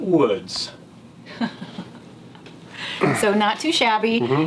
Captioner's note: laughing